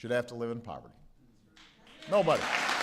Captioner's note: applause